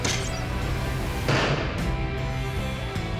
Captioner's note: arrow strikes